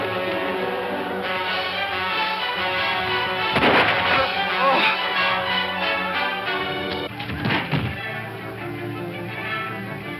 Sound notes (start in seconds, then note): 4.1 grunting